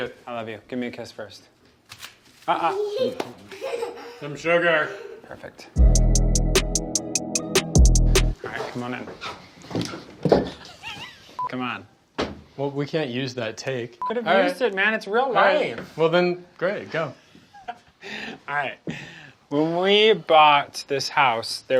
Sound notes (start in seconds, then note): 2.7 laughing; 5.8 chill music